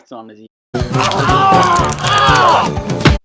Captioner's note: crunch